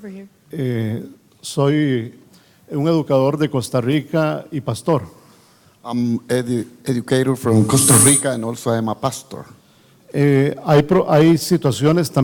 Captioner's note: in Spanish with interpreter